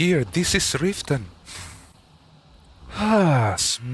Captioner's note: deep breath